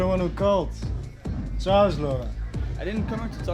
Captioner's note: speaks foreign language